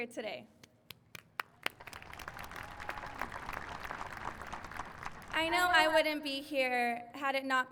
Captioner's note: applause